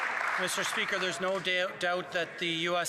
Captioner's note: some Applause